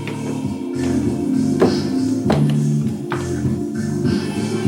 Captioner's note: footsteps